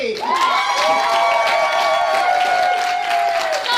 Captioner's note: cheering